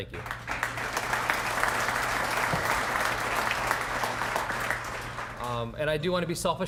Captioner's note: applause